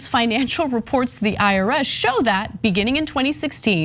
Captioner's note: laugh